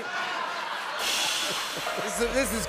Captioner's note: laughter